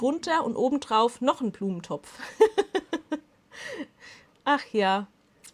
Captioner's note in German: Lachen